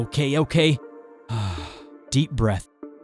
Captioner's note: exhale